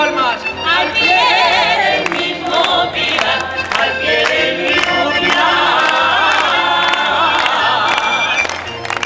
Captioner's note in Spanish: aplausos